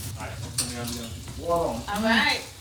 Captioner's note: group chattering